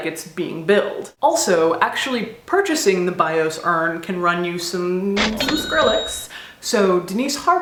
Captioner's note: cash register sound effect